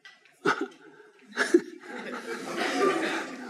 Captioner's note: chortle